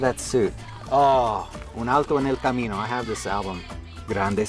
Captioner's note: spanish